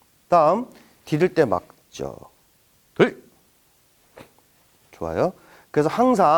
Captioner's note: stepping